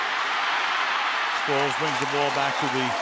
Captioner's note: cheering